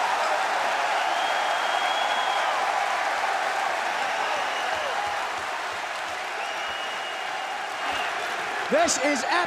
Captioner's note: crowd cheering